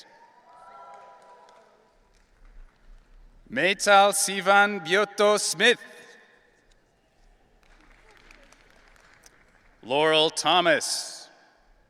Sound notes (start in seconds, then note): 0.4 audience cheering; 7.5 audience applauding